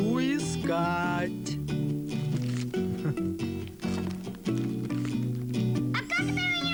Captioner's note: rustling